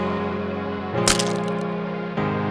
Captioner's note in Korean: 철퍽